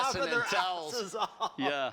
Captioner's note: laughter